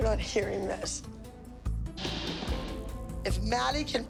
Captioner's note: loud crash